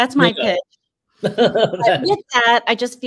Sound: laughs

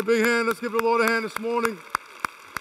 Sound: applause

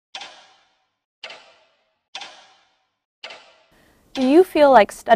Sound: clock ticking

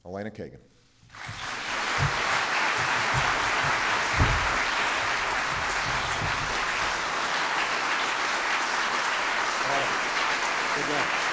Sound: applause

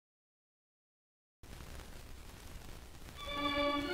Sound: static buzzing

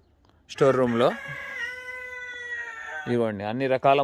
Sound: cock crows

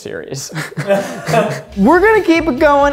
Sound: laughing

